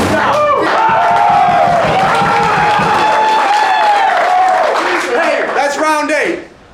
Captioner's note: cheering